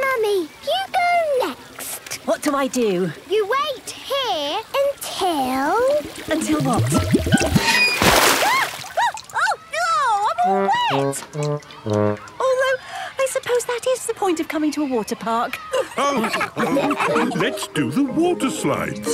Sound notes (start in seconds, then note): 15.6 all laughing